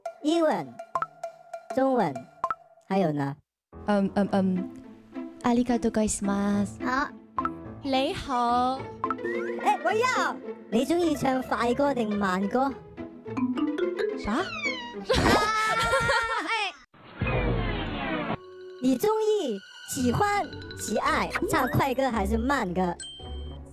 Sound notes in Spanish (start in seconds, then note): 6.0 en japonés; 8.3 en cantonés; 12.6 en cantonés